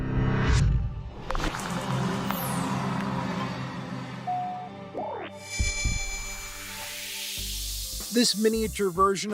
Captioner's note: tech sounds